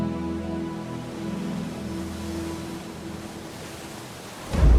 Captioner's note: waves crashing